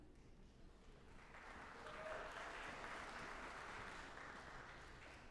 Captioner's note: audience applauding